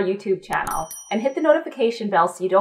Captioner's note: bell rings